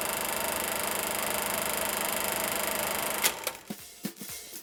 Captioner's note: generator buzzing